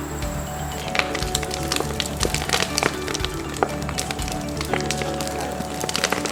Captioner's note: background music continues; sound of wood crackling